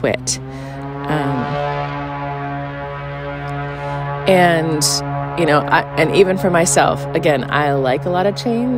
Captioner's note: airplane noise